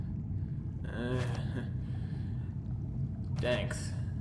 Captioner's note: groaning in pain